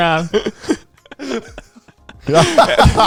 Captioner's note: laughing